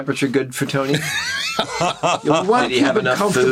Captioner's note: laughs